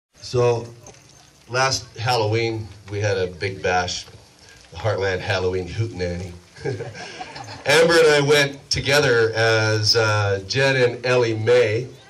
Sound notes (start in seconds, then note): 6.5 heh-heh